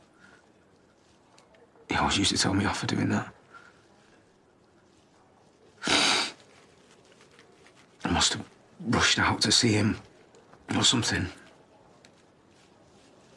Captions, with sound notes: He always used to tell me off for doing that. *Aaron sniffles* I must've rushed out to see him... ...or something...